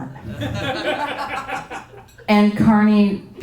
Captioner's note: audience laughing